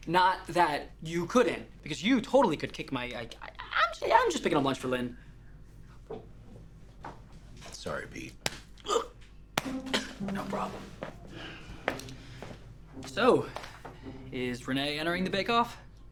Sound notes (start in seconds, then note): 8.9 Peter groans; 9.5 hand slaps